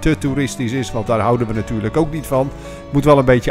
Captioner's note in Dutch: Voiceover